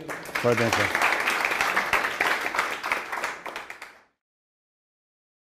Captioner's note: applause